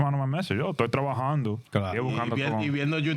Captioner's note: speaking In Spanish